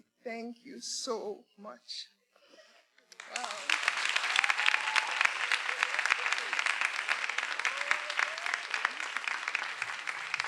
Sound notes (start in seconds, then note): 3.0 everyone applauding; 3.2 attendees cheering